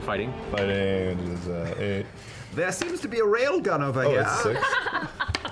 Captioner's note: Sydney voice